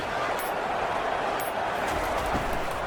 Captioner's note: crowd Noises